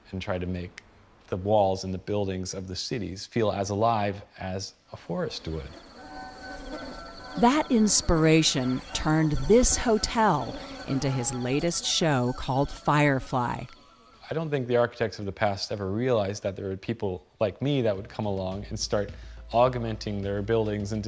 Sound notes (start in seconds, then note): 8.5 insects chirping; 9.9 fireflies buzzing